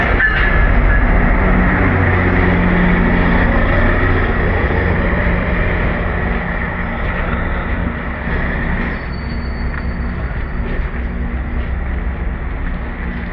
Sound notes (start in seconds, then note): 2.9 train approaching